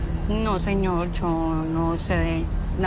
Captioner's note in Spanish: none